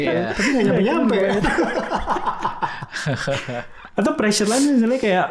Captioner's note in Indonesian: tertawa